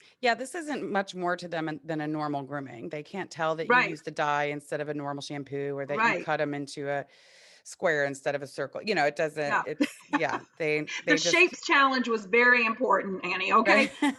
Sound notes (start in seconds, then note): 9.6 laughs